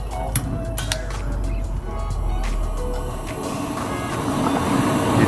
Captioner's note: propane hissing